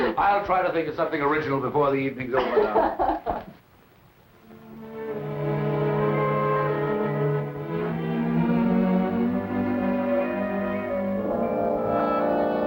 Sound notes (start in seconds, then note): 2.3 laughing